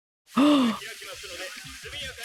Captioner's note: gasp